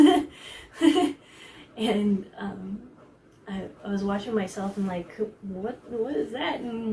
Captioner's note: laughs